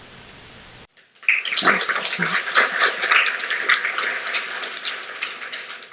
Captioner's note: applause